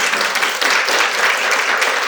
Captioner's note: applause